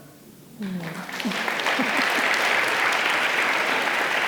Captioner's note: audience applauding